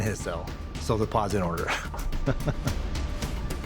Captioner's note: chuckling